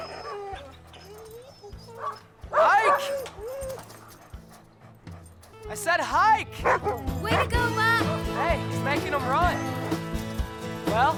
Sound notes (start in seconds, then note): 0.0 dogs whining; 3.7 Buck barking